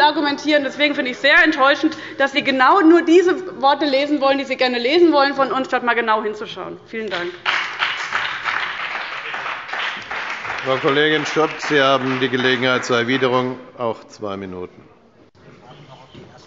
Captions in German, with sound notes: Deswegen finde ich es sehr enttäuschend, dass Sie genau nur diese Worte lesen, die Sie lesen wollen, statt genau hinzuschauen. – Vielen Dank. (Beifall bei dem BÜNDNIS 90/DIE GRÜNEN und der CDU) Vizepräsident Wolfgang Greilich: Frau Kollegin Schott, Sie haben Gelegenheit zur Erwiderung, auch zwei Minuten.